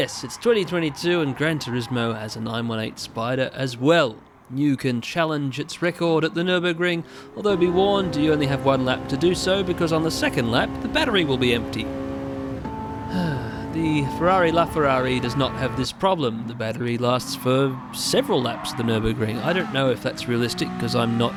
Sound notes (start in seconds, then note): 13.1 sigh